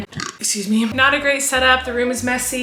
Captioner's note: burping